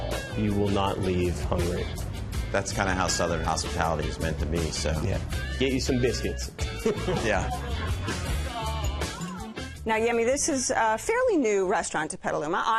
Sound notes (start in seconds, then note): 6.6 chuckles